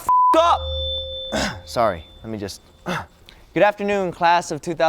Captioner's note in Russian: прокашливается